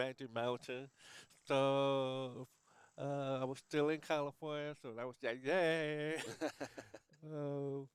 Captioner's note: laughs